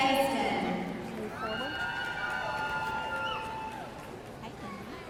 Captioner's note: audience cheering